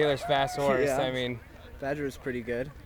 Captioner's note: crowd applauding